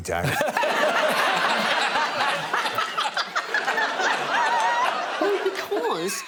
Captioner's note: all laughing